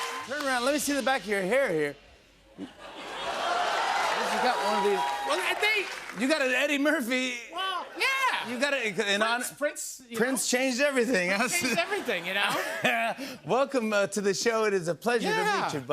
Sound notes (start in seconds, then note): 3.0 laughter, cheers, applause